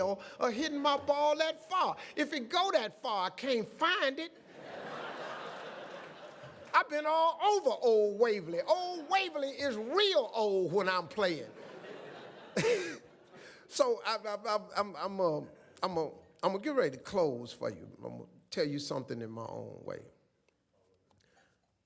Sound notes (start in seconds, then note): 4.3 audience laughs